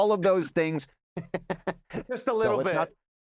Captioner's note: laughing